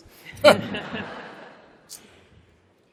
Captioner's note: laughter